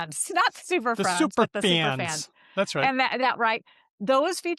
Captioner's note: us northern accent